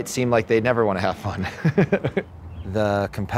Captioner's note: laughing